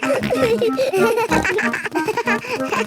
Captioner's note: giggles; snorts, bleating